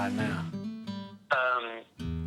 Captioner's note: on phone